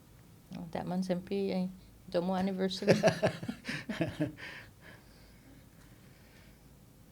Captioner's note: laughing